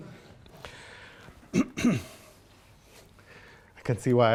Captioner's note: clears throat